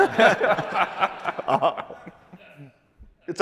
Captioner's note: laughter